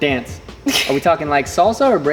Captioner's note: chuckles